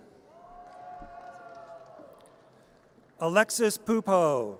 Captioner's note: audience cheers